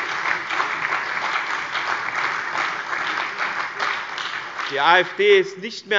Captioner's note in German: Lebhafter Beifall